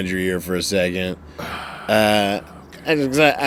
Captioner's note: sighs